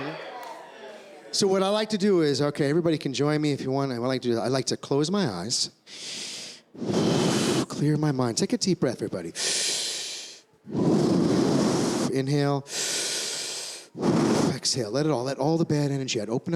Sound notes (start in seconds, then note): 0.0 cheering; 9.3 inhales; 12.6 exhales